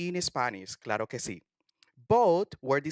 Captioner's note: spanish